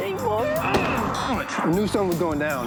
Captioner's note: groans